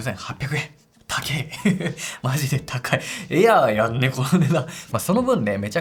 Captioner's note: laughs